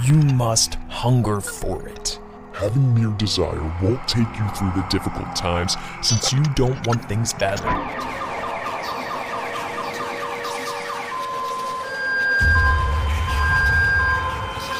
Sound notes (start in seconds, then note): 7.8 car alarm beeps; 7.8 sirens wail; 11.0 announcer's voice echoes